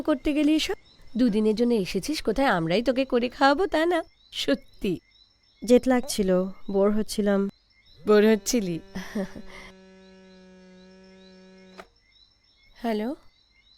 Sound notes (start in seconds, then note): 10.2 phone vibrates